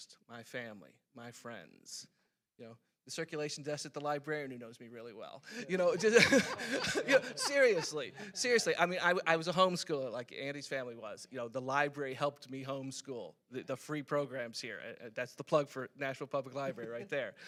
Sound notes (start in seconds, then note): 5.5 laughing; 5.6 other panelists laughing